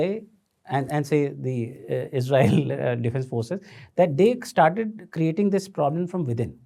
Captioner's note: chuckles